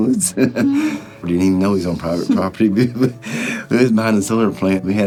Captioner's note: laughing; laughing